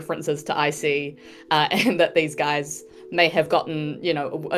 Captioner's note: chuckles